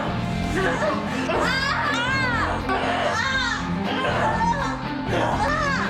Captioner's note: screaming